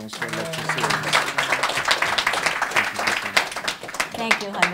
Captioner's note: applause